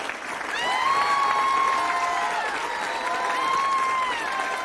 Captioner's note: group cheering